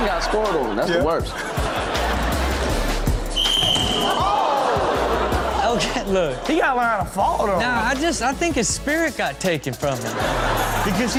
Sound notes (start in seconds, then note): 3.3 whistle blows; 4.0 audience groans